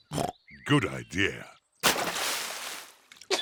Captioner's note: oinks